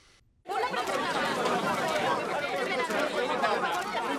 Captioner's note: chatter